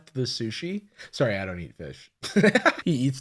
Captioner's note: laughs